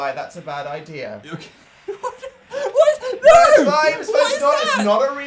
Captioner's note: laughing